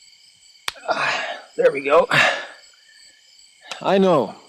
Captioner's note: grunts